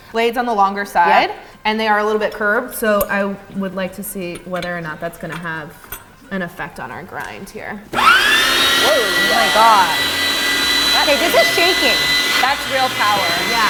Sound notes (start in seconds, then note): 7.9 grinder whirring